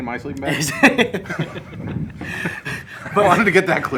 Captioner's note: laughs